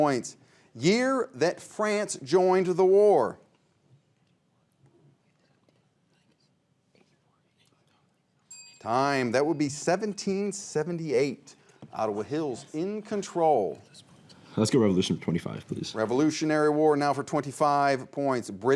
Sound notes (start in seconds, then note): 4.5 whispering; 8.5 bell chimes